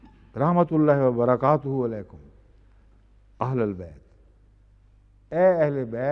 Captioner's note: Arabic